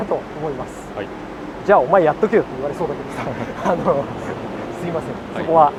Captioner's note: laughs